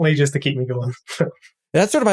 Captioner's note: laugh